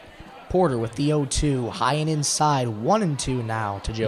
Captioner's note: indistinct chatter